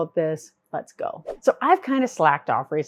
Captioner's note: air whooshes